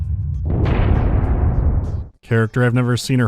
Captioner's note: dramatic thunderclap